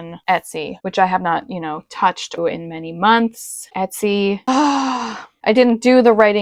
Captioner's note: exaggerated, soul-devouring sigh